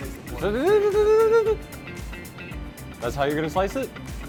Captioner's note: nervous noise